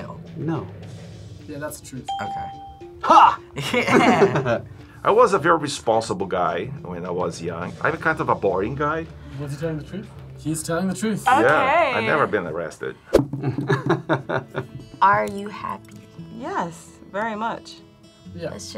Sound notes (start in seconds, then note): 3.5 both chuckle; 13.4 chuckles